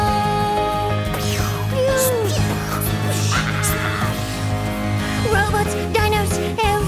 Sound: imitating volcano exploding

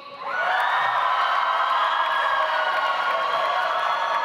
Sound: audience applauds

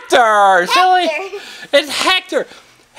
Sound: laughs

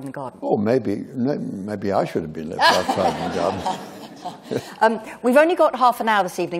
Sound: laughter

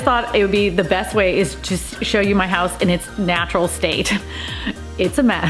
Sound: laughs

